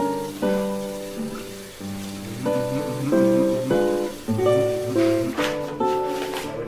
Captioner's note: humming